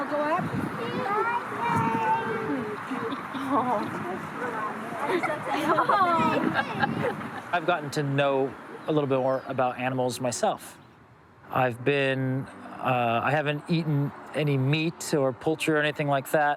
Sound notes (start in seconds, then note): 2.2 laughing; 5.0 laughter